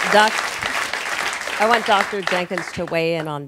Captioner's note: applause